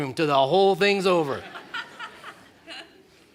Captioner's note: laughter